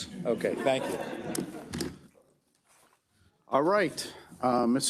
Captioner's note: members laughs